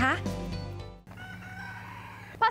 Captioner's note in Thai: เสียงไก่ขัน